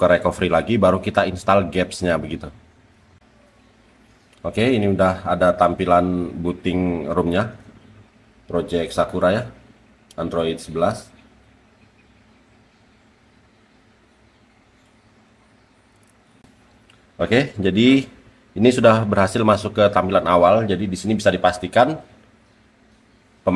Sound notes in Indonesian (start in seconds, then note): 7.5 booting